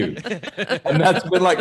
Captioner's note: chuckling